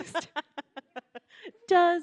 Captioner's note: laughing